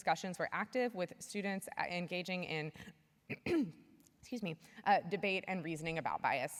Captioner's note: clears throat